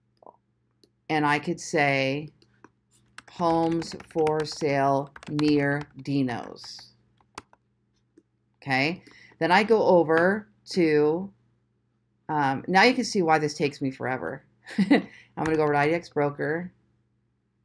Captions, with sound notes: and I could say "Homes for Sale Near Dino's." Okay, then I go over to... Now you can see why this takes me forever. (chuckles) I'm gonna go IDX Broker.